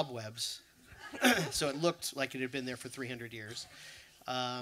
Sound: laughter

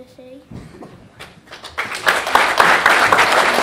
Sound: applause

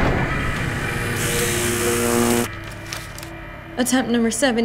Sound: electric zapping

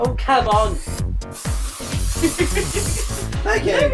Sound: giggles as she sprays

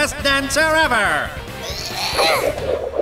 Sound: grunt

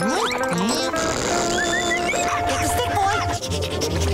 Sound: whistling

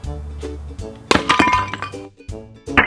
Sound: crash; playful music

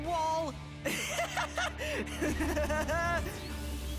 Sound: maniacal laughter

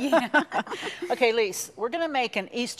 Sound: laughing

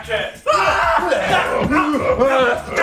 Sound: screaming

